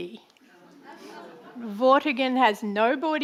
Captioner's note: audience laughing